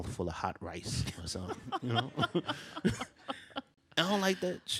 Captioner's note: laughs